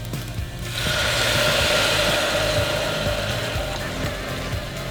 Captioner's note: stew sizzling